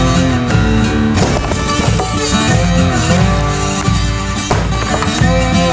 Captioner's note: dirt rustling; wood thwacks